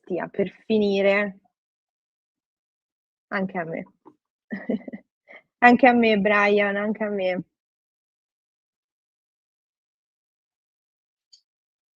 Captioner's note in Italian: risate